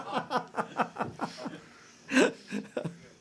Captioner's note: laughter